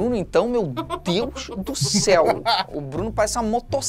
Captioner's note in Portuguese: risadas